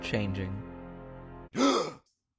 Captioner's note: soft music; music stops; gasp